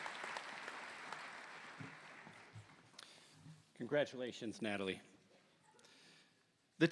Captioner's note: applause